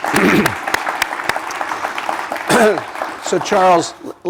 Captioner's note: applause